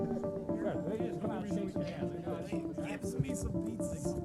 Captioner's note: men speaking faintly